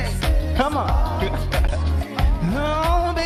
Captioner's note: laughs